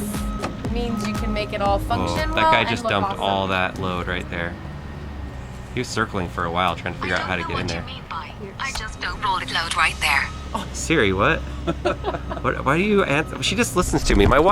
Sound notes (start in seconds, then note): 7.8 automated Voice; 11.4 laughing